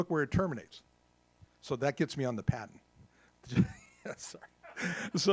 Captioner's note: laughs